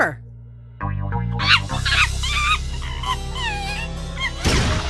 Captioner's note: monkey noises